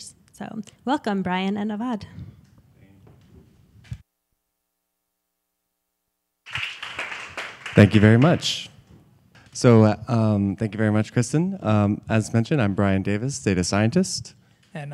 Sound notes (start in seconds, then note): 6.4 applause